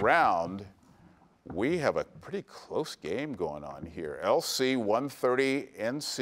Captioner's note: none